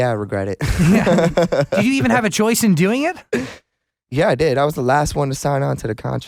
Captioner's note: laughs